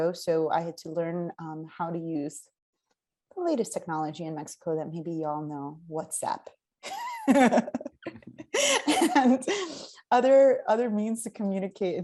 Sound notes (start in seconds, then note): 6.8 laughs